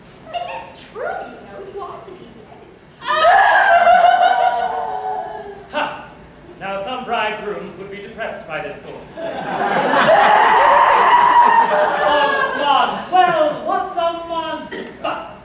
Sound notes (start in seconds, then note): 3.0 YUM-YUM and PITTI-SING wail like the blazes; 9.2 laughter. The girls resume wailing